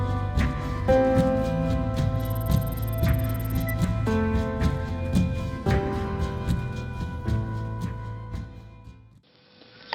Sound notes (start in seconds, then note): 2.1 electronic ticking